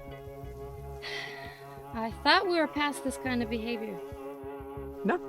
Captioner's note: sighs